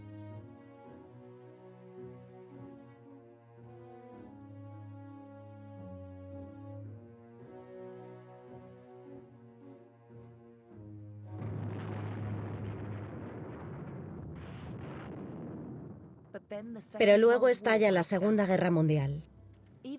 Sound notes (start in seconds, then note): 11.4 guns firing